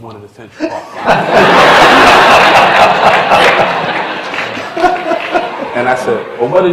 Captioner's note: laughter